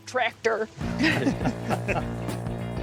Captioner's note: laughter